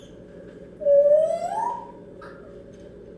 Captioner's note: whistling up